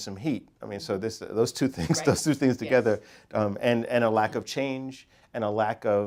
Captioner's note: laugh